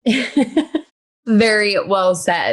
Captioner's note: laughs